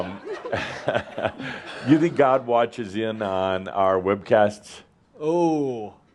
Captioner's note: laughter; Adamus chuckles